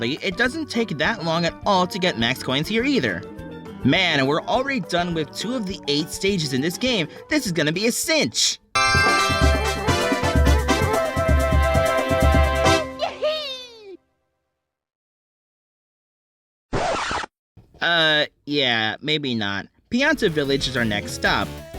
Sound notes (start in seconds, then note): 16.7 record scratch